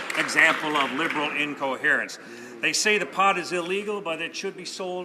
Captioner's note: some Applause